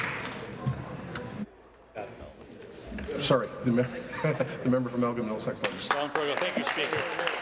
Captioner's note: applause